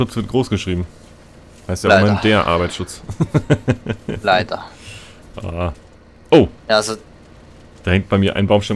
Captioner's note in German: lachen